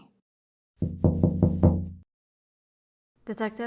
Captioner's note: knocking on glass